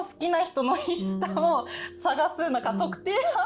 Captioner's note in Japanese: 笑い